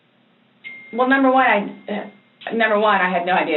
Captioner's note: cell phone dings